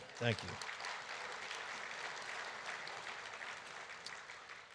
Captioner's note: audience applauding